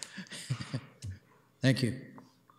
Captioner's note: chuckling